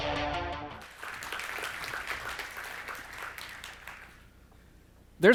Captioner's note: applause